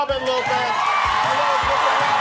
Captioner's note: applause